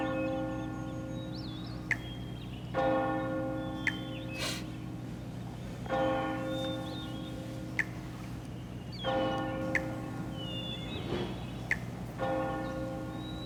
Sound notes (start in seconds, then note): 0.2 bells chiming; 4.3 man sniffing; 9.0 birds singing